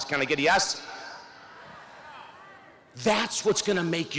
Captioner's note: audience shouts